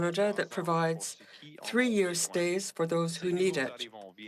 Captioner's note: speaking French